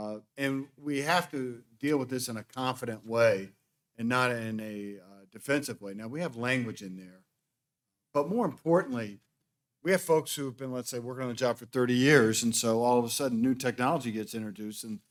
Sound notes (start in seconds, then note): none